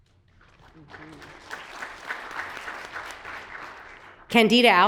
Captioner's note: audience applauds